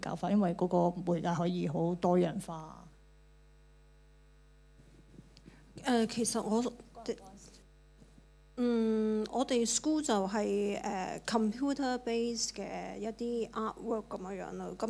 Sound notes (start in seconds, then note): 6.6 Cantonese; 10.5 Cantonese